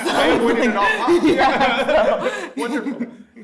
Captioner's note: laughing